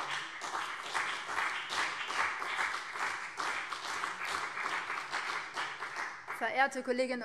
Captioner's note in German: Beifall BÜNDNIS 90/DIE GRÜNEN und CDU